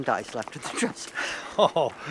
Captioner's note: laughs